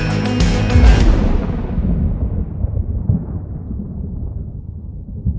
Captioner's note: thunder roars